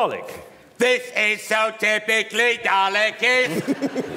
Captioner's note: dalek voice